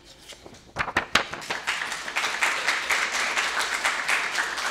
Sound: audience applauding

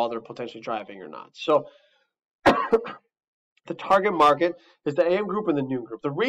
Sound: coughs

